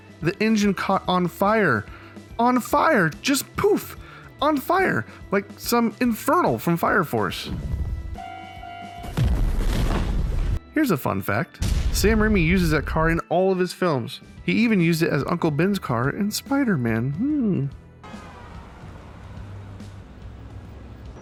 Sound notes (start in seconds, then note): 7.7 beeping; 9.1 explosion